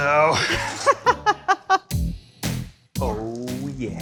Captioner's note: laughs